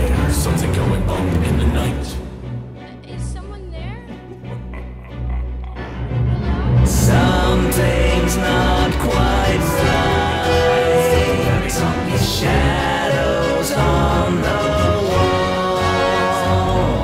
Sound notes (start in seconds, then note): 4.1 evil chuckle